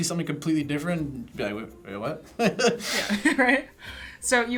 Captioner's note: laughs